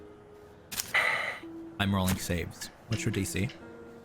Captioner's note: sighs